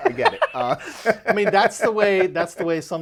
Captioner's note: laughing